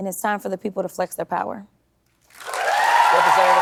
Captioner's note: applause